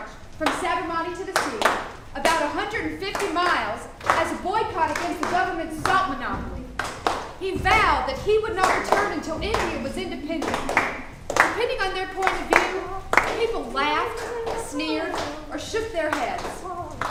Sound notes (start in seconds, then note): 6.7 actors clapping